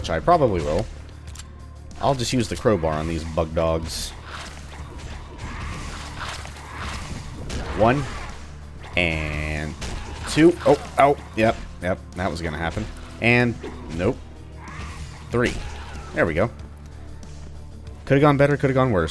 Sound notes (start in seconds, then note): 6.7 thwack; 9.8 thwack; 14.7 whiff; 16.1 thwack